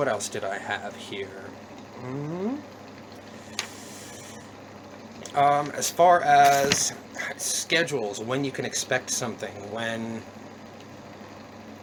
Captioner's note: thinking sounds; more thinking sounds